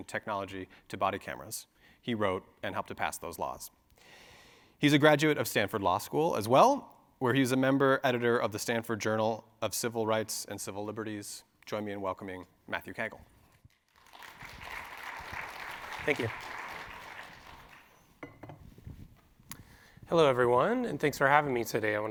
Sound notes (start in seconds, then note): 13.5 audience clapping